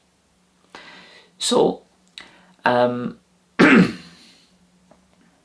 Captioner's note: cough